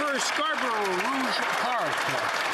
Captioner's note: some Applause